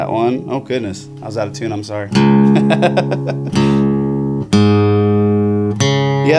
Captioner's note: laughs